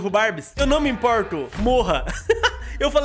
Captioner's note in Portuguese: risos